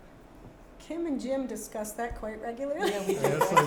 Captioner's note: laughing